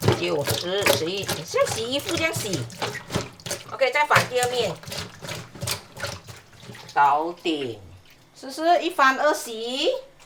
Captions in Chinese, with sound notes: 9~10~11 像洗衣服這樣洗 ok 再翻第二面 (廣東話)搞定 是不是一翻二洗